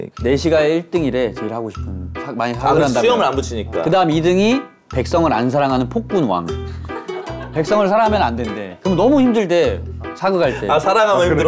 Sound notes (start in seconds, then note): 6.7 laughing